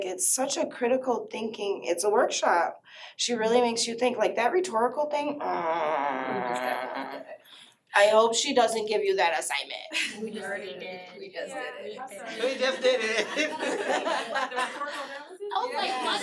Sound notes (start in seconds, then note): 12.3 laughter